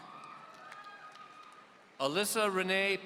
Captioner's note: audience applauding